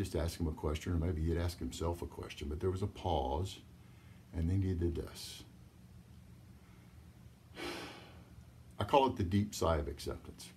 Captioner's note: sigh